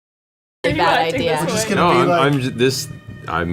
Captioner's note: laughs